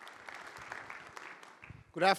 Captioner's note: applause